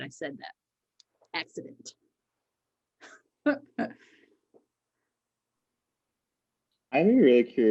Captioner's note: chuckles